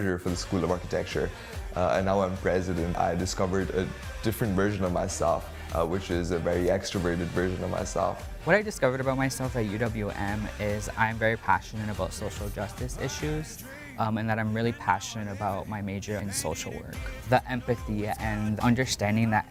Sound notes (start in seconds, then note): none